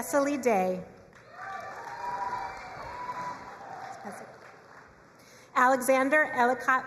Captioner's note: crowd cheering and applauding